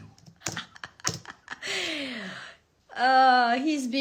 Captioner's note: laughs